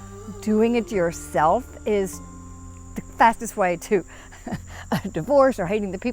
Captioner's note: laughs